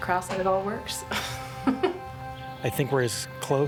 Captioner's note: laughing